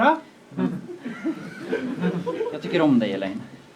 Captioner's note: laughter